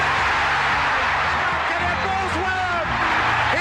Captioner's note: crowd cheering